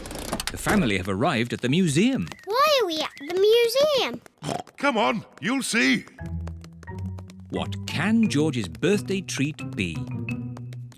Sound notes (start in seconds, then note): 4.4 oinks